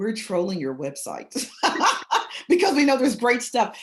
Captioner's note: chuckles